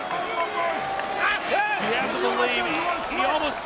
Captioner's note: applause